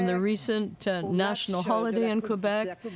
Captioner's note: speaking French